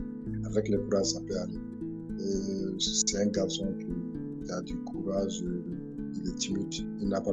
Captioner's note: continues speaking in French